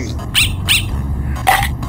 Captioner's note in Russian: тявканье надоедливой собаки